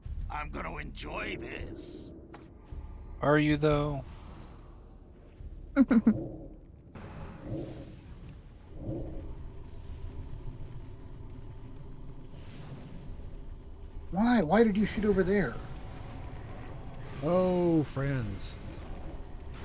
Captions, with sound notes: I'm gonna enjoy this. Are you though? (laughs) (ominous music) Why, why did you shoot over there? Oh, friends.